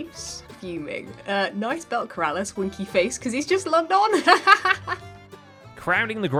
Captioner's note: laughs